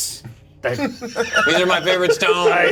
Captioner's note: laughter